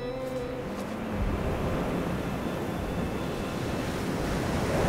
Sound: waves whooshing

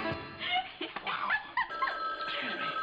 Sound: ring

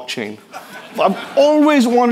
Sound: people laughing

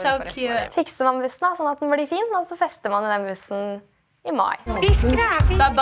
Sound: speaking Norwegian

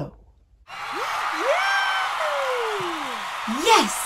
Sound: audience cheer

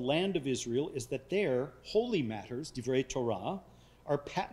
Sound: speaking foreign language

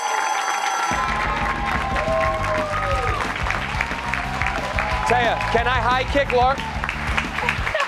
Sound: cheers and applause

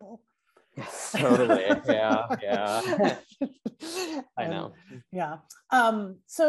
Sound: laughs

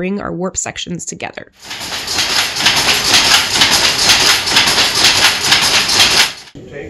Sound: machine Noises

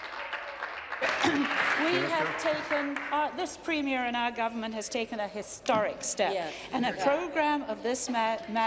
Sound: applause

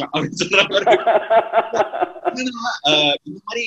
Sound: laughs

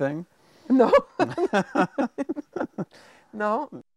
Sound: chuckling

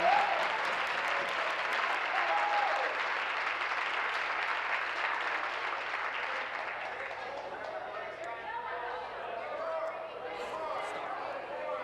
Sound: applause

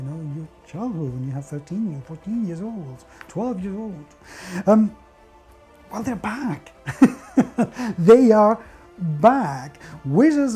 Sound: giggles

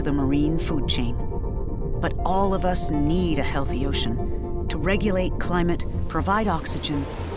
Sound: waves crashing

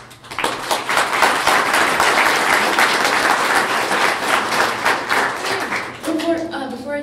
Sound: clapping

